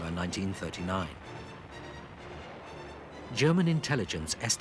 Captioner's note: heavy guns firing